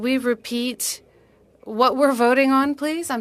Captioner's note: speaking in French